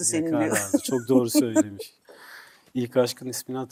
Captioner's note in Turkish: kahkaha